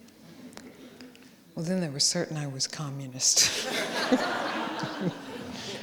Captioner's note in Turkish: kahkaha